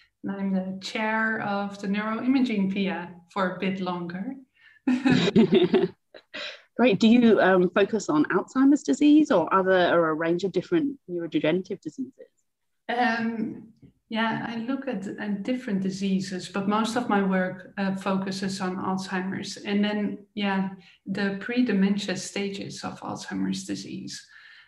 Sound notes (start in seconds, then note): 4.9 chuckling